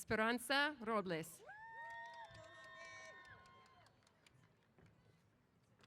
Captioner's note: applause & Cheers